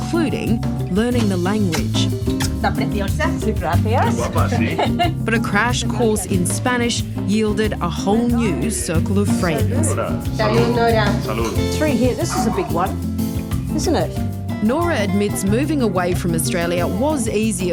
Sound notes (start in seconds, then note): 2.8 all speak spanish; 9.9 all speak spanish